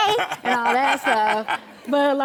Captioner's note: Karamo laughing